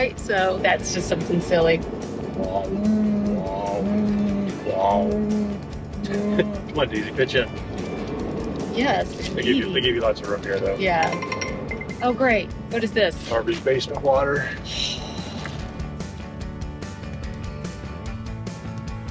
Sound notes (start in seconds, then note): 2.7 imitate bullfrogs croaking; 10.8 device chimes; 15.7 upbeat bluesy music